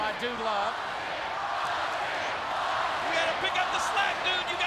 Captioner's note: audience chanting